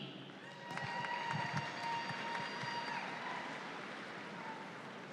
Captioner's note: audience applauds